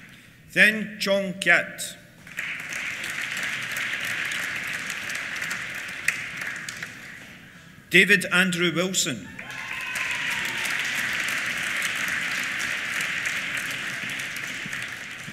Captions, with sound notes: Thein Chong Kiat. (APPLAUSE) David Andrew Wilson. (CHEERS) (APPLAUSE)